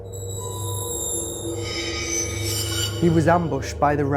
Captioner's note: ominous scraping